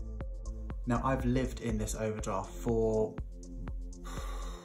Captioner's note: exhales